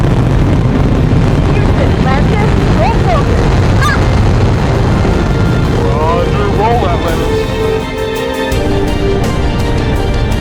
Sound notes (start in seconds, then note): 1.9 over comms; 6.5 over comms